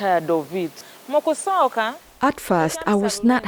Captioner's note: speaking in foreign language